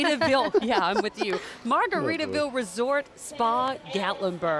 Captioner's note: laughing